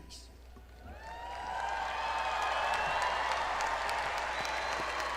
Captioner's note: crowd applauding